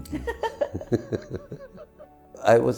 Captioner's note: both giggle